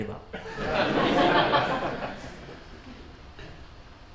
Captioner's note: audience laughs